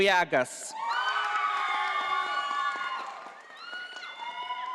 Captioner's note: audience applauding